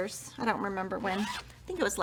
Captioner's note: zipper vibrates